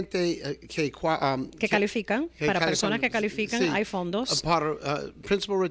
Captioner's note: Hablando ingl\s